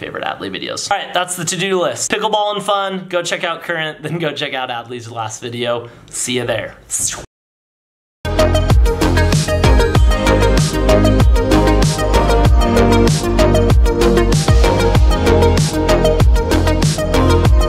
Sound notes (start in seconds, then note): 7.0 swoosh; 8.4 upbeat music